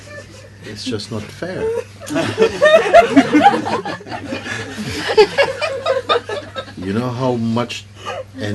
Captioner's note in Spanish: risas; risas